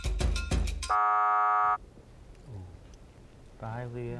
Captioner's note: buzzer